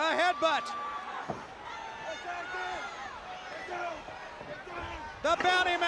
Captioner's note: crowd chatter